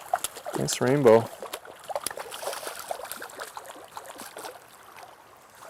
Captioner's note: splash